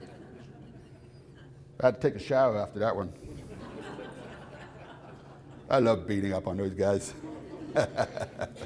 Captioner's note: laughter